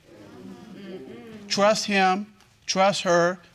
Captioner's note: crowd agreeing